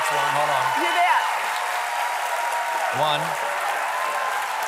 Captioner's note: cheers and applause